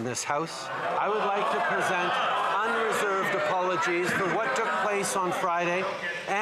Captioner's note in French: voix de l'interprète